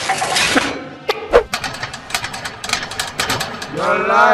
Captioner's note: locks rattling